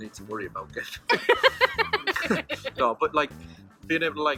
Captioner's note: laughing